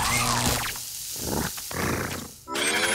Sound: growling

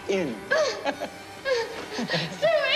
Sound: he chuckles

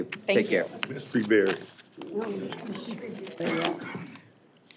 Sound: indistinct chatter

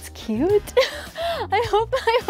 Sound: laughing

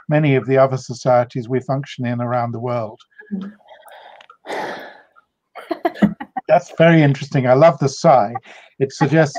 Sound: sighs

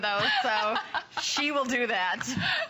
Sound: laughter

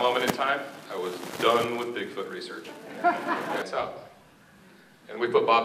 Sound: laughter

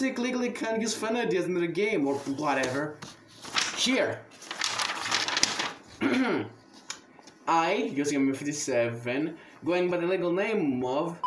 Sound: ahem

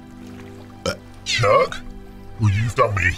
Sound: burps

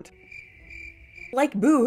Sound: crickets chirping

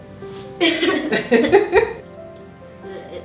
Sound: giggles

